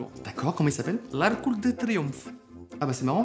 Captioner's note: Romanian accent